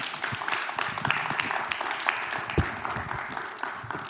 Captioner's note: applause